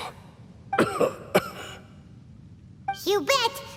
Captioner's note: cough